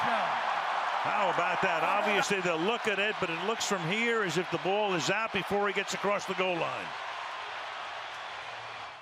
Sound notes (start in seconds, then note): 1.0 cheering